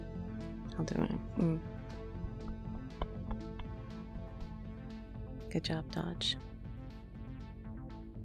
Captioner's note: pats back